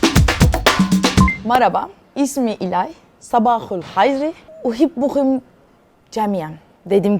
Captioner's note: speaks Arabic